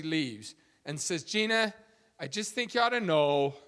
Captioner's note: none